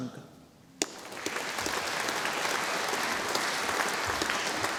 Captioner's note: audience applauding